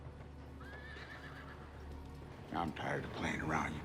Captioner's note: horse whinnies